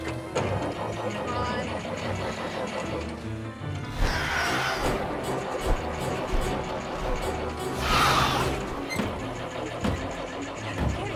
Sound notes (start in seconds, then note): 2.4 engine sputters; 5.2 creature screeches; 5.2 dramatic music; 8.7 engine sputters